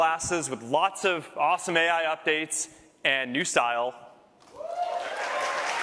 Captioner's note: cheers